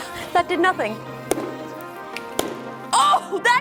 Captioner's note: hammer thudding